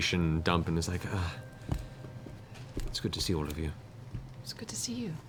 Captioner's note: sighs